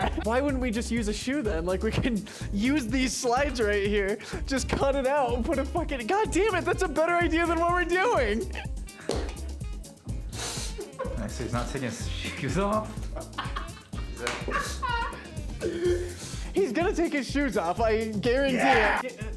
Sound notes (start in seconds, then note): 10.6 sobbing Laughter; 12.3 laughter